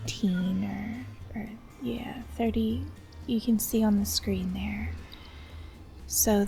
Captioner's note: quietly